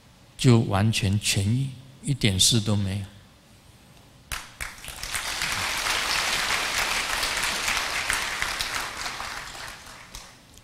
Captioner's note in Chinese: 眾鼓掌